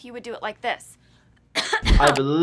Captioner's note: coughing